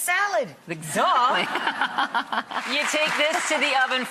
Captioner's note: laughing; applauding